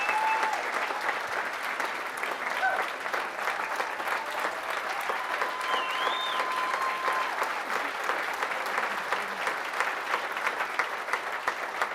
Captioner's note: cheering